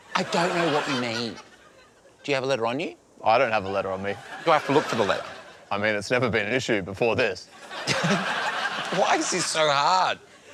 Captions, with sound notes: I don't know what you mean. Do you have a letter on you? I don't have a letter on me. Do I have to look for the letter? I mean, it's never been an issue before this. (LAUGHS) Why is this so hard?